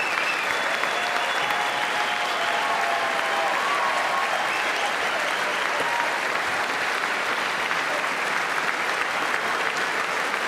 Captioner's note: cheers and applause